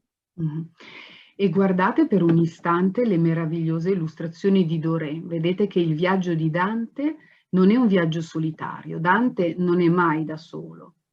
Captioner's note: speaks Italian